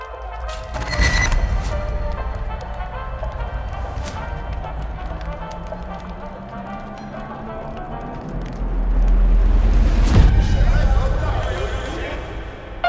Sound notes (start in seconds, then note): 0.1 music echoing; 6.4 low rumble crescendoing